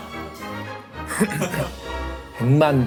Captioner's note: coughing